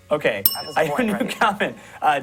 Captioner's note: bell rings